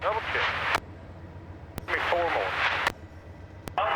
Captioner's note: plane engine roaring